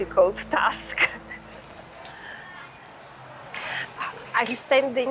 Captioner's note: people chattering